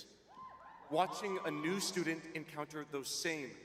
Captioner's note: cheering